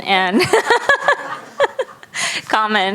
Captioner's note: laughing